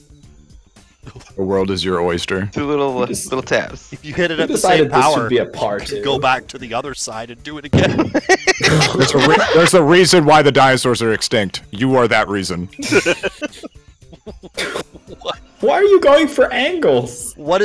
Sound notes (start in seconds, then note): 7.7 laughter; 13.4 group laughter